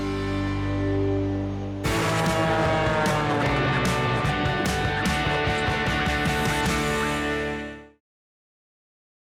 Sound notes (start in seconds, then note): 2.3 plane soaring